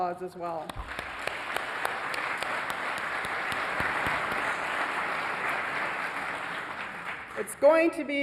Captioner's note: applause